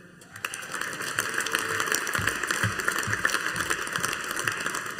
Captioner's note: audience applauding